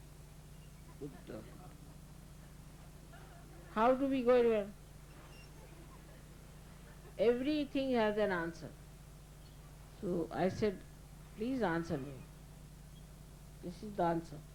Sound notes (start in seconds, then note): 0.1 laughter; 5.6 laughter